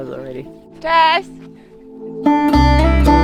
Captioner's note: speaking Polish; mellow guitar music